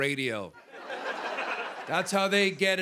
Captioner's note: laughter